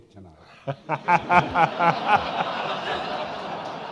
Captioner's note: all laughing